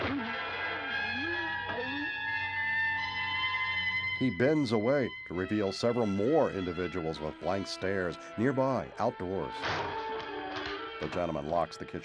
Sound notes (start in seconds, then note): 0.3 groaning; 9.2 lock clicks